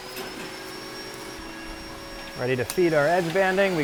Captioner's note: edge bander whirring